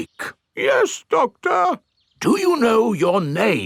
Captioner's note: in teddy's voice; in normal voice